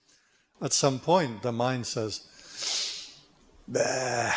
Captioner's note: inbreath!